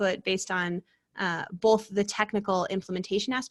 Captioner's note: none